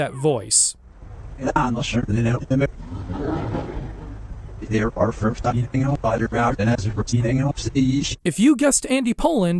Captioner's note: low-pitched gibberish